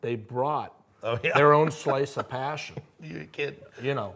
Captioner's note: chuckles